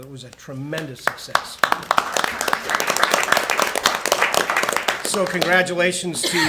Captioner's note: attendees applaud